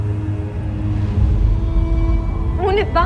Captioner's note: wind howling